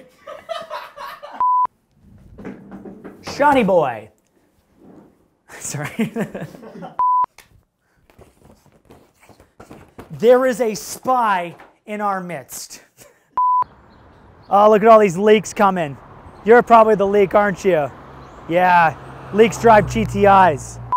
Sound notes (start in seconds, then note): 1.4 loud beep; 7.0 loud beep; 13.4 loud beep